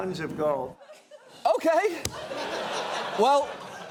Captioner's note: audience laughs